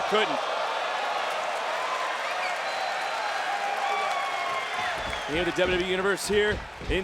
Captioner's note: applause